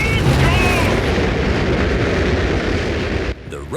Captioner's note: rockets blasting